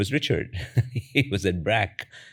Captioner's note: laughs